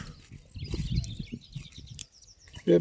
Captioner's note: bird sounds